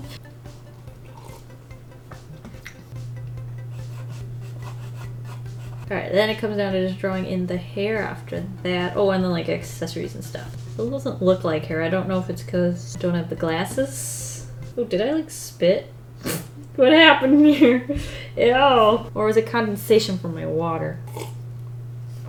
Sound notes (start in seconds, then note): 17.2 laughs; 20.9 slurps water